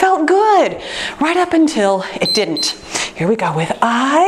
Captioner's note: timer beeps